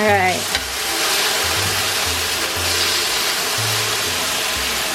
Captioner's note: pan sizzling